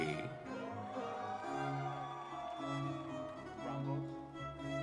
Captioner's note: audience cheers; whimsy music continues